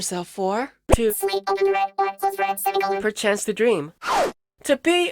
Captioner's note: robotic voice